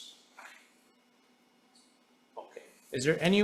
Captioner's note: paper rustling